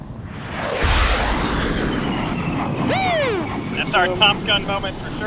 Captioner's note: automated Voice; jet aircraft roaring